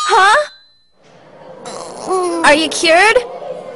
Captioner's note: Osaka groans